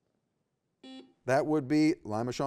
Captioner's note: buzzer beeps